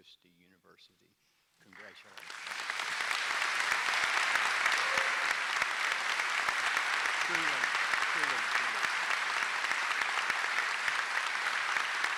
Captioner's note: applause